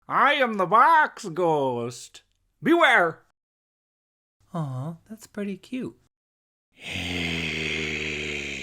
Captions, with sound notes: I am the box ghost…beware! Aww, that’s pretty cute. *growling*